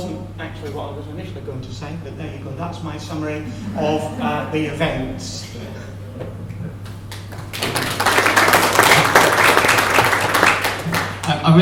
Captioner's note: applause